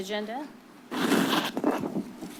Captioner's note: paper rustles